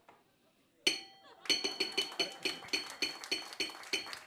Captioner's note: gong